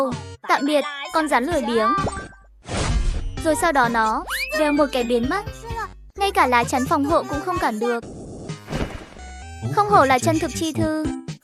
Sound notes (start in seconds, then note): 2.7 whooshed